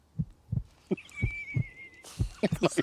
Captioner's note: super Scurred Laughter